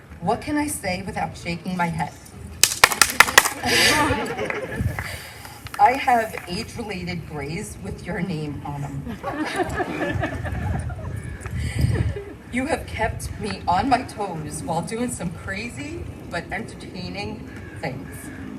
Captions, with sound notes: what can I say without shaking my head? ( Applause ) ( Laughter ) I have age-related grays with your name on them. ( Laughter ) You have kept me on my toes while doing some crazy but entertaining things.